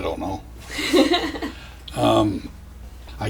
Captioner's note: laughs